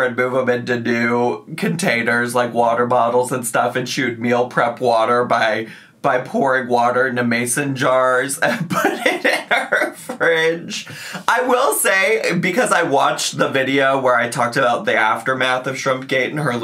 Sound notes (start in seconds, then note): 8.4 laughing